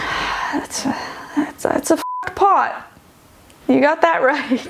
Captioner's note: beeping